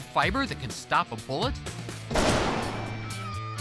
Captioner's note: gunshot